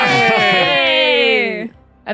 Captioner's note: chuckles